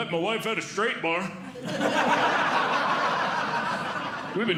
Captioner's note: audience Laughing